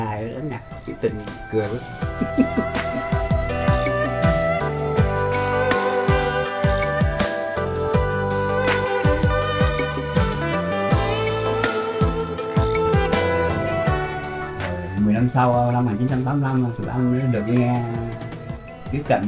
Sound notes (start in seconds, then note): 2.5 romantic music playing; 15.0 speaking foreign language